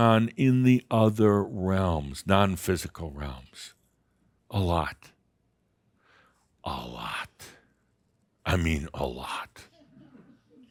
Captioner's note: a few giggles